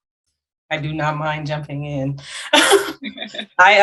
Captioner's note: laughs